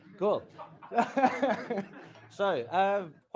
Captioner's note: laughing